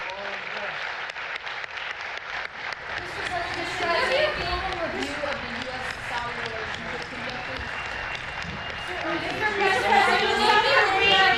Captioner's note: applause